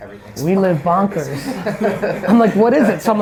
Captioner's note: laughs